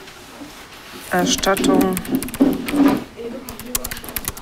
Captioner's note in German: Tastatur klimpert